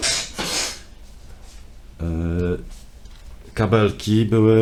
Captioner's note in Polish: parsknięcie